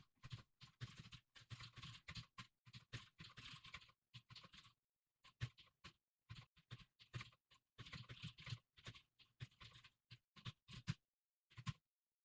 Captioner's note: typing sounds